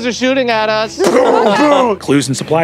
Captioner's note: mimics impacts